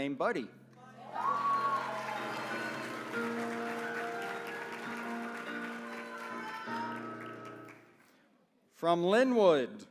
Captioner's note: applause